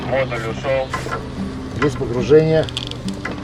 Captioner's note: WALKIE-TALKIE VOICE: — Module submerged?